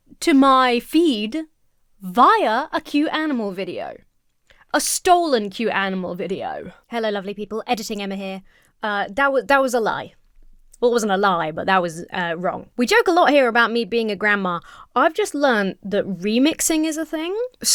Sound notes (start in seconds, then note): none